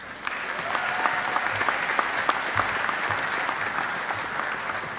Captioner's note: audience applauding